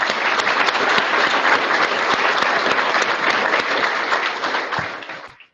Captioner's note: audience applauding